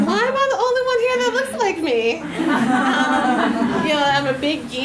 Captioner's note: audience laughs